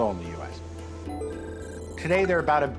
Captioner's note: multiple phones ringing